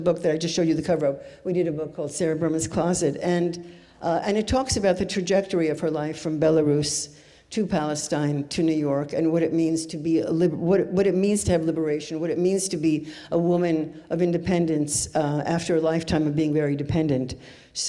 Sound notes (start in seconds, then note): none